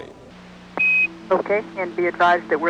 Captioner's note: beeps